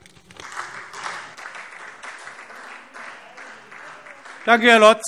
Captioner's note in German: Beifall SPD